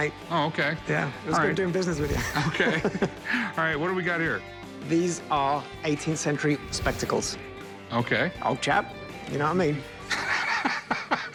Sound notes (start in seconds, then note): 2.0 chuckling; 10.1 laughs